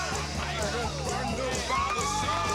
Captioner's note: chanting